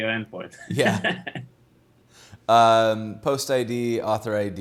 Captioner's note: laughs